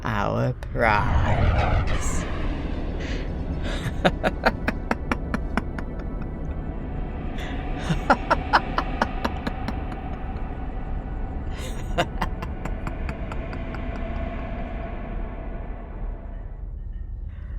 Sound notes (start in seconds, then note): 3.2 evil laughter and spooky sounds as the ships enter the portal. Music ends